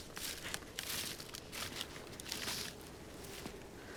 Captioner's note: footsteps departing